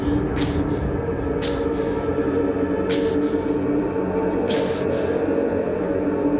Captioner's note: len gasps and winces